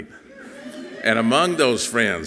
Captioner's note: audience cheering softly